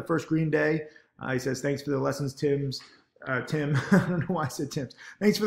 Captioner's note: laughs